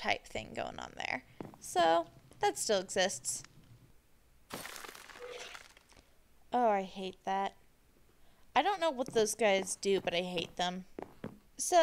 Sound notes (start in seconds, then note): 5.0 skeleton creaks